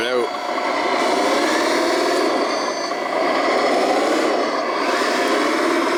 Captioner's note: truck engine roaring